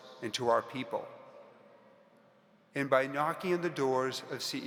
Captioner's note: none